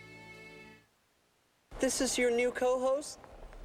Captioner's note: none